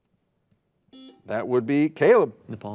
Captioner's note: buzzer buzzing